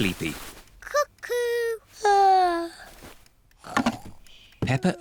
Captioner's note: yawns